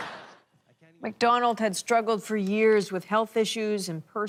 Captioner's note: laughter